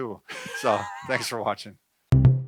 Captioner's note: laughs